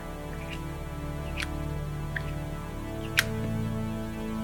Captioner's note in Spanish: clic más ligero